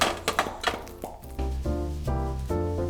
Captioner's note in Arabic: أصوات فرقعة; ترانيم عيد الميلاد